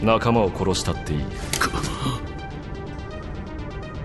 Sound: Cris gasps

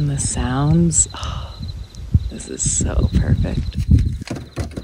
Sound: sighs

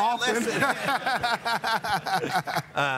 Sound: laughing

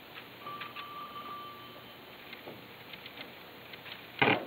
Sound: telephone ringing

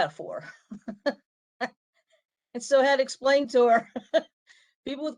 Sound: laughter

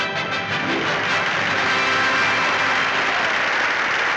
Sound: audience applauding

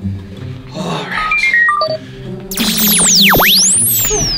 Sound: ray beeps

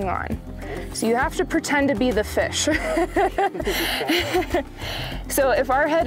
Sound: laughs

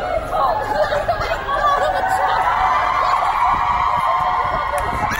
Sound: crowd cheering

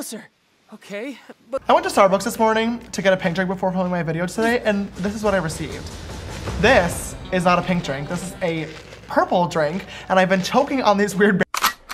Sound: James Charles noises

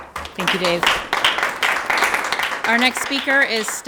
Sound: everyone applauds

